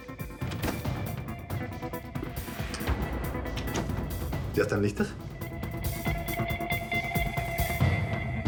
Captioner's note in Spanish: Sonido al abrir la puerta